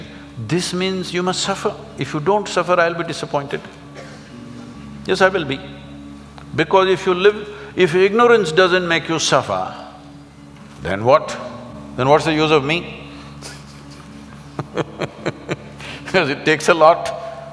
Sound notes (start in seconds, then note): 13.3 laugh